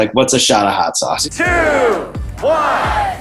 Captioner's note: crowd